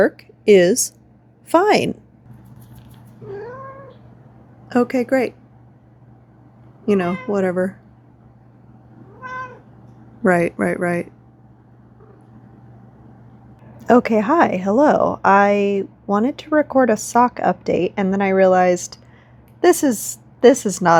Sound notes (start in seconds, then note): 3.1 meow